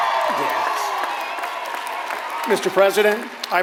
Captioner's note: applause